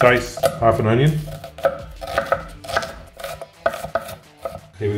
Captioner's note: knife chopping